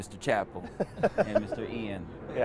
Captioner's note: laughs